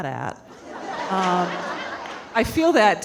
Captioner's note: audience laughing